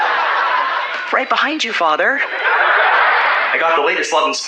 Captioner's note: laugh track